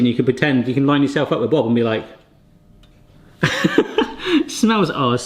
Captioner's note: laughs